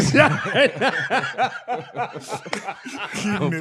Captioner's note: laughing